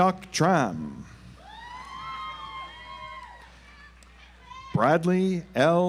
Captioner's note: audience applauds